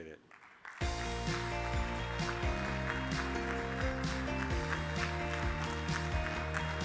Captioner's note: audience applauding; upbeat music